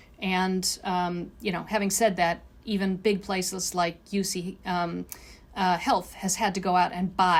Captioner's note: none